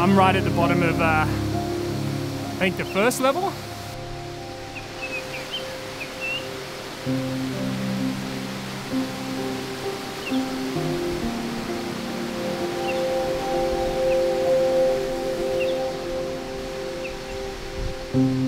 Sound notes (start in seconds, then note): 7.0 water rushing